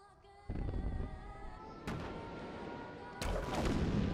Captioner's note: explosions ring out